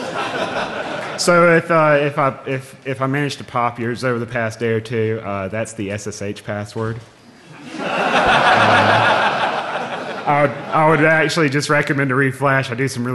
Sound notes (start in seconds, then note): 4.5 laughing